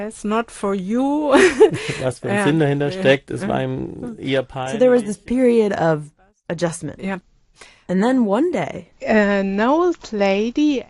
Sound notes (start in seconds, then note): 2.0 speaking German